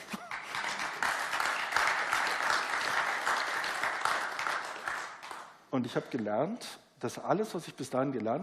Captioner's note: applause